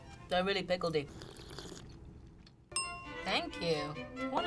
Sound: slurping tea

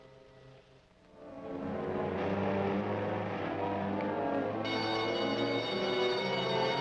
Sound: suspenseful orchestral music; alarm blaring

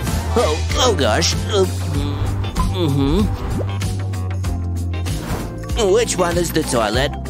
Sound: taking a sip

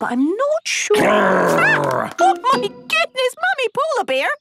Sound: loud growl

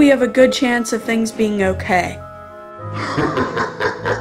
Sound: sinister laughter

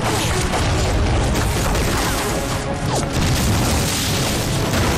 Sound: shooting

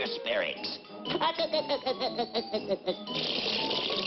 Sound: laughs

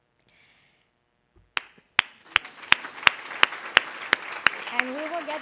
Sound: applause

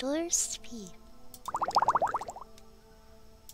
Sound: funny potion sound

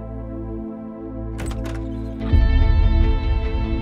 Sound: door opens

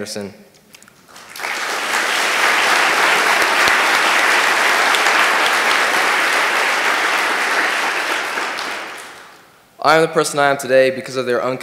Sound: applause

